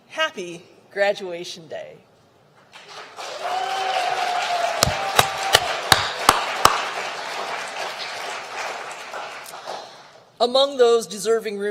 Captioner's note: applause